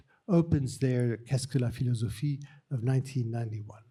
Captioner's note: speaking french